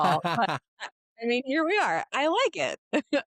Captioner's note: laughing